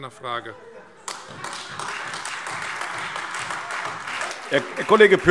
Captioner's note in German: Beifall Freie Demokraten und AfD